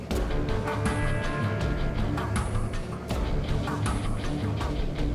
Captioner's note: boat motor running